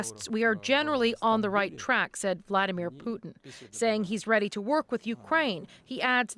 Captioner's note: speaking alternate language